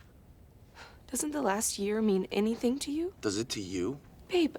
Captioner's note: sighs